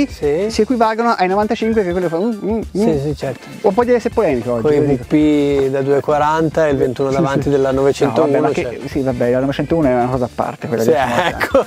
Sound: laughter out loud

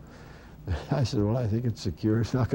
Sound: chuckles

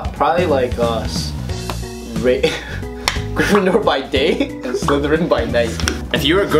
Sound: laughs

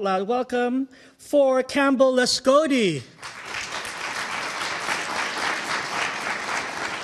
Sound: audience applauding

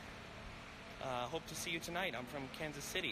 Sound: none

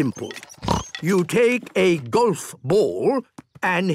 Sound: snort

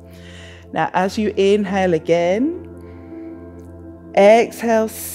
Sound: inhales

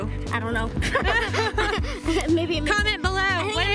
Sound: laughing

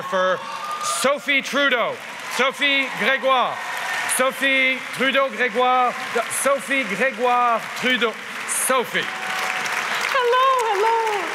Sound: applause

